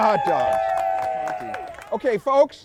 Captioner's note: cheering